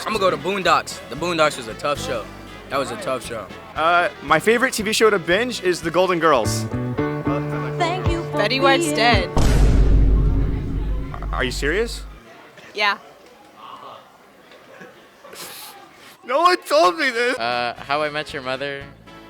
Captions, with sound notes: Imma go to Boondocks. The Boondocks was a tough show. That was a tough show. Uhh, my favorite TV show to binge is the Golden Girls. Betty White's dead! Ar- are you serious? Yeah. [sniffling] No one told me! Uh, How I Met You Mother...